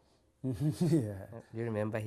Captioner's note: laughs